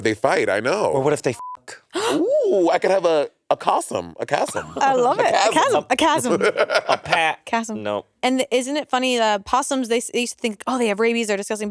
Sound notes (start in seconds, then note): 1.4 beep; 1.9 gasping; 7.1 Monét laughing